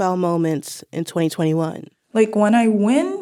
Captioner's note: soundbite of archived recording